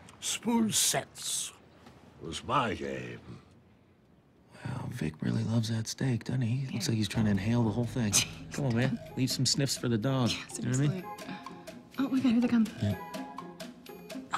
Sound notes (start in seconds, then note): 7.9 laughs